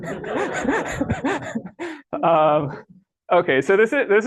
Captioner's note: laughter